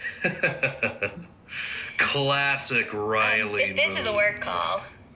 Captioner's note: laughing